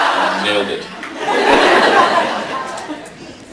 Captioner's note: laughs